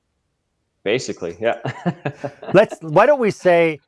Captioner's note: laughs